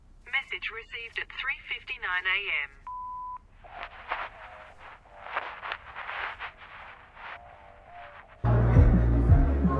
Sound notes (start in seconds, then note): 3.8 shuffling sound, people talking